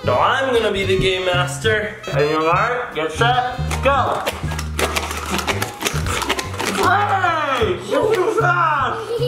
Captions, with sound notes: - No, I'm gonna be the game master. On your mark, get set, go (blowing) Hey, you're too fast!